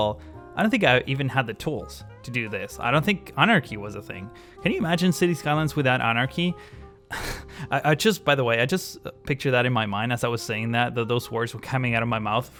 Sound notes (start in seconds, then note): 7.0 laughs